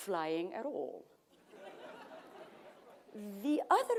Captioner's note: laughter